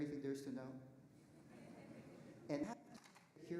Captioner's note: audience laughing